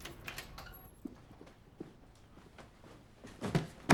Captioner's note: door latch clicks; keys jangling; box thuds